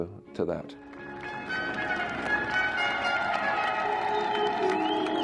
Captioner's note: crowd cheering; regal instrumental music